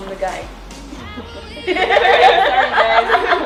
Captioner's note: laughs